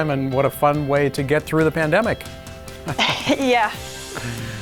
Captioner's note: laughs